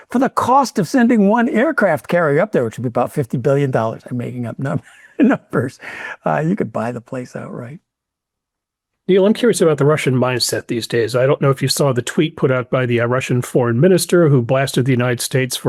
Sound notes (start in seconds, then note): 4.6 laughs